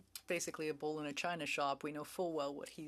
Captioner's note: speaking French